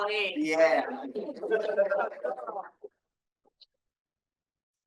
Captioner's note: audience laughing